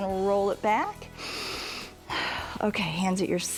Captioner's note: inhales and exhales